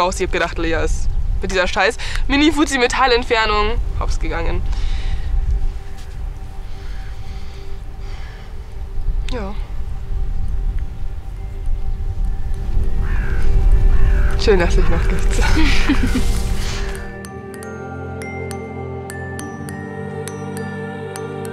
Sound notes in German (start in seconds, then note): 4.7 Sie atmet schwer; 6.0 Beklemmende Musik; 15.3 Kichern